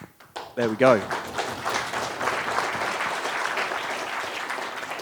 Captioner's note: audience applauding